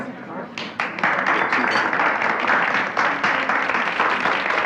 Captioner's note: audience applauding